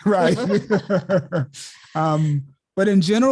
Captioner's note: laughter